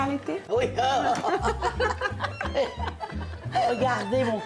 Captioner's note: laughter